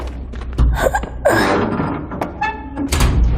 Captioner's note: grunting